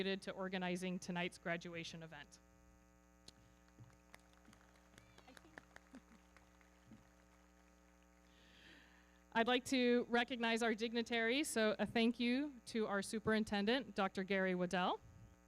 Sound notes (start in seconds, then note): 3.6 everybody clapping; 4.2 audience cheering